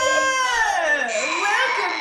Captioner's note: gasps; Mark and Connee make strained whining noises